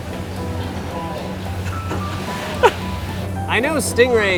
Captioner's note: laughing